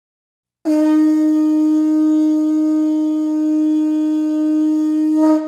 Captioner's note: blaring horn